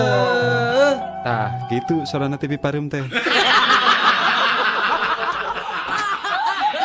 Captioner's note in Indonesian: tertawa